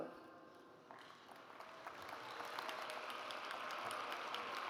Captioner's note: audience applauds